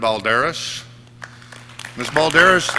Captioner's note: audience clapping